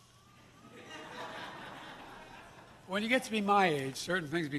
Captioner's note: laughter